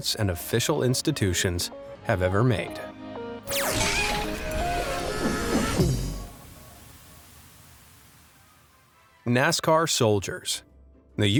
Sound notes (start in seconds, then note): 3.5 upbeat music; 3.6 cartoon character screaming